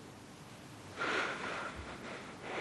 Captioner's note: exhales and cries